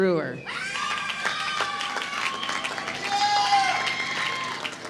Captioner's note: applause